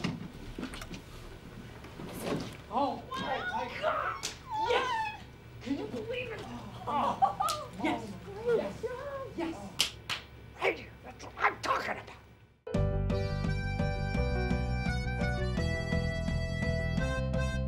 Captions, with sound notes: -Oh! -Wow! [ Hands slap ] -Yes! Can you believe it?! -[ Laughs, hands slap ] -Yes! Yes! Yes! [ Claps ] Thank you! That's what I'm talkin' about!